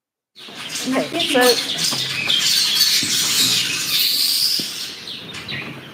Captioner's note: monkey chatter